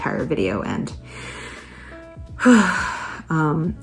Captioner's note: takes a deep breath in and out